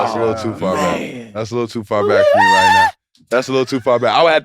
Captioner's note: Jay screams